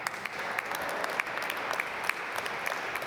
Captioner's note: applause